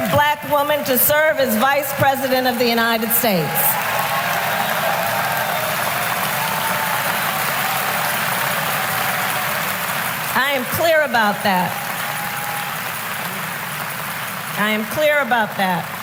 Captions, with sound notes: Black woman to serve as Vice President of the United States. (Applause.) I am clear about that. I am clear about that.